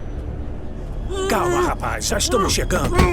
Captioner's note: muffled screaming